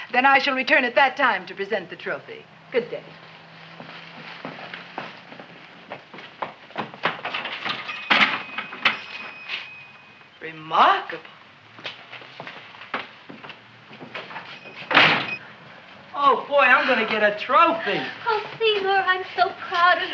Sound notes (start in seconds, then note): 14.8 door slams